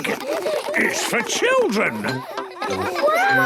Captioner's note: children laughing